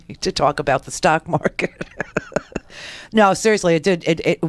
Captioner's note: laughs